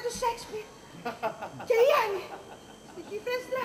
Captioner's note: γέλιο του